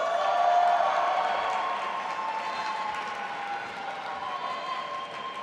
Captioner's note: audience applauding and cheering